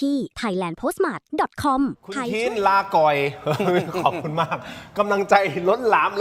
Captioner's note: laughter